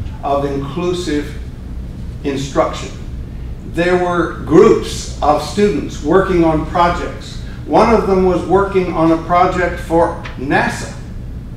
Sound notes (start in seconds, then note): none